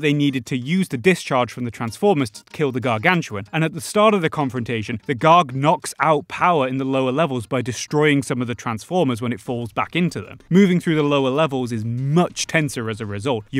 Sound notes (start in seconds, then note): none